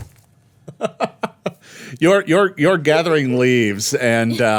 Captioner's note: laughing